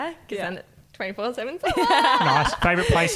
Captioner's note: laughing